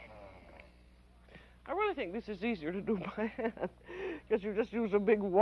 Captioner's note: laughing